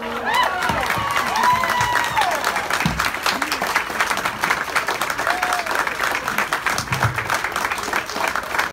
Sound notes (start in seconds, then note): 0.7 applause